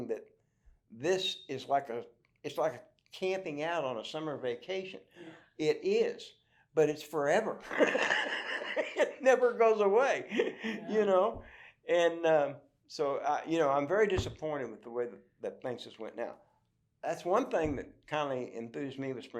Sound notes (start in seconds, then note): 7.7 laughs